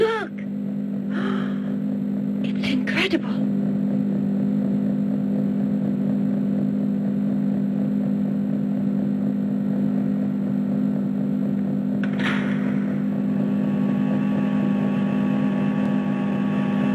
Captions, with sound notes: Look. - (gasps) It's incredible. (machines humming) (machines whirring)